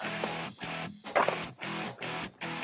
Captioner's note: gunshot